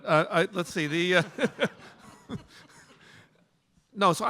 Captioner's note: laughter